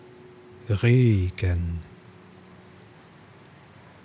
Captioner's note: german